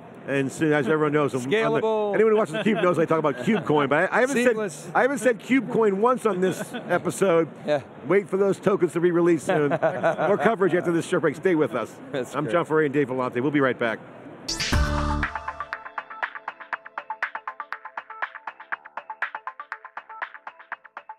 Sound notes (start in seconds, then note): 14.5 futuristic electronic music; 14.6 futuristic buzzing